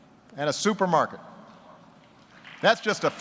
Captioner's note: applause